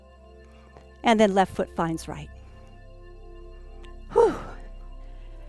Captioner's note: sigh